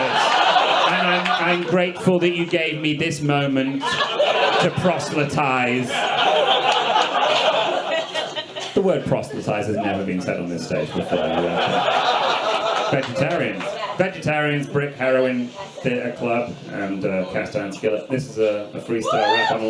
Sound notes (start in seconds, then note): 0.3 audience laughs; 6.7 audience laughs